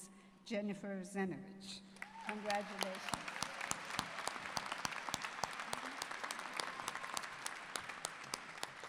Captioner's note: applause